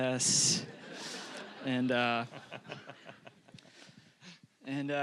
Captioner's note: audience laughing